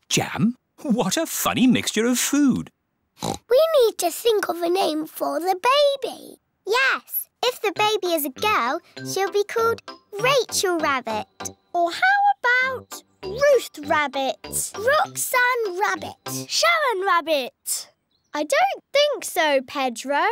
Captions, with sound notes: What a funny mixture of food! (OINKS) We need to think of a name for the baby. Yes. If the baby is a girl, she'll be called Rachel Rabbit. Or how about Ruth Rabbit? Roxanne Rabbit. Sharon Rabbit! I don't think so, Pedro.